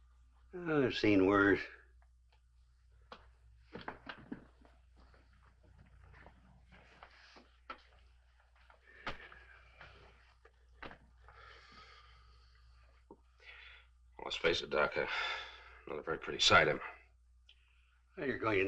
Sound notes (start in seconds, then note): 15.6 sighs